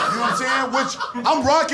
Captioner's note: laughter